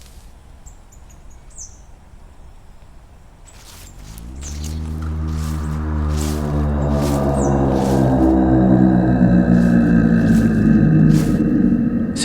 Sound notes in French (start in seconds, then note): 4.0 Mugissement lointain